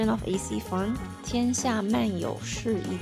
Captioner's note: speaking in Chinese